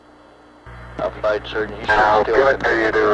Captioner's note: mission Control Audio